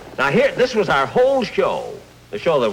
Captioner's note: none